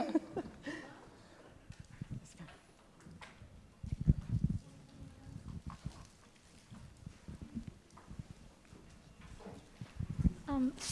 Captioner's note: laughing